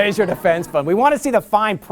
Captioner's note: laughter